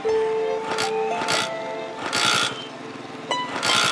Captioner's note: bike stutters